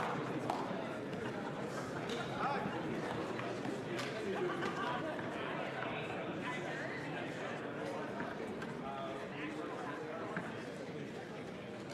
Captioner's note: applause